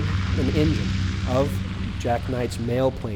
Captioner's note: airplane engine roaring